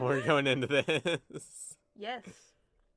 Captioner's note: terrified laughing